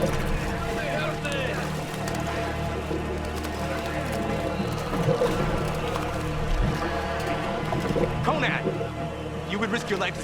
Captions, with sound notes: - Help me! Help me! (splashing) - Conan! You would risk your life